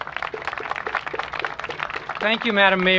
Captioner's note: applause